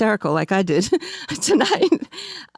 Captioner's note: laughs